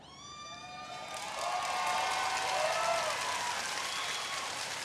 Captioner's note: audience cheering